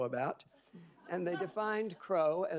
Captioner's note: audience laughing